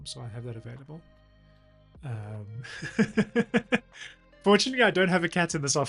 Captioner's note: laughs